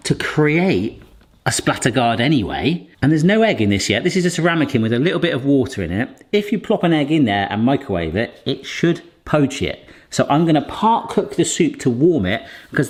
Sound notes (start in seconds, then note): none